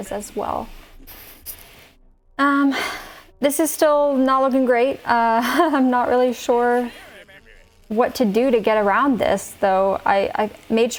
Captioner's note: nervous laughter